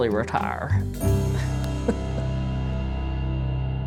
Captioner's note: chuckles